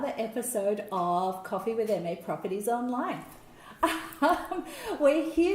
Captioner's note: laughs